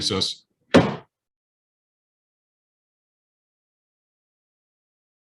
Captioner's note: sounding the gavel